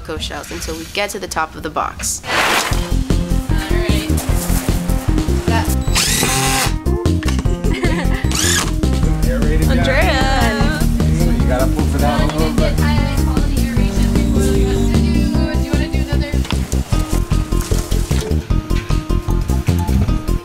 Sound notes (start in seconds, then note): 5.8 drill whirring; 7.2 laughing; 11.4 people talking in background